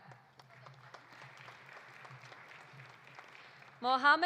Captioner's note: audience applauding